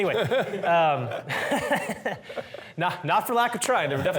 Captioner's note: laughter